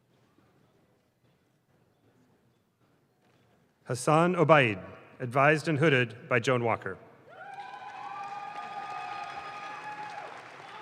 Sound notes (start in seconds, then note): 7.4 audience claps